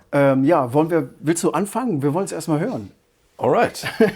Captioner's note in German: gelächter